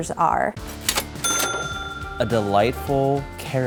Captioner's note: cash register sounds